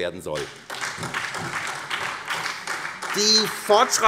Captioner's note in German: Beifall SPD